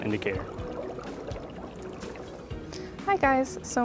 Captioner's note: bubbling